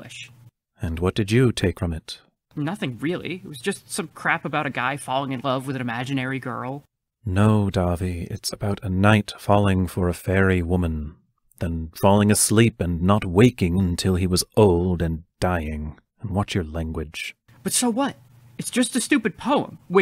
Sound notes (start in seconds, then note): none